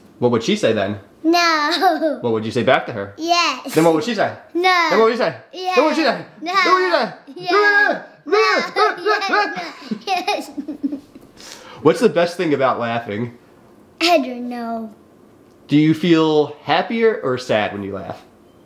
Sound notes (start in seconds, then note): 7.2 speaking gibberish; 10.8 giggling